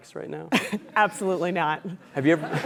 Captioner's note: laugh